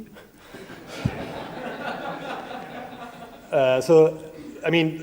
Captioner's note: audience laughs